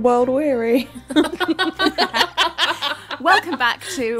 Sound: laughing

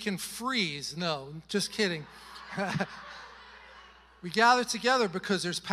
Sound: congregation laughing

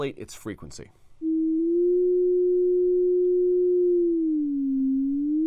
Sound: sine wave vibrato

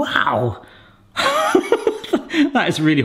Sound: laughing

